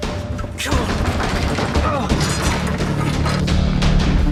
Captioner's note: metal rattling; suspenseful music